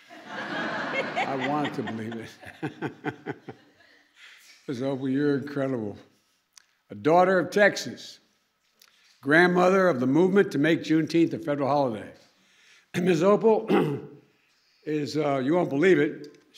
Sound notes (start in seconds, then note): 0.0 laughter; 0.2 laughs